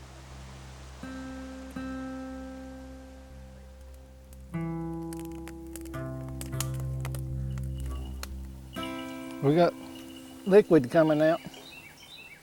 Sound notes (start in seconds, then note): 0.0 birds chirping and wind blowing; 5.1 fire crackling